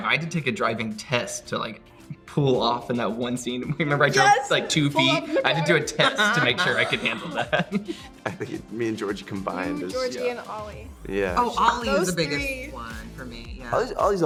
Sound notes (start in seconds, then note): 4.9 laughing